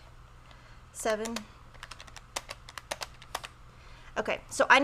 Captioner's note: taps on keys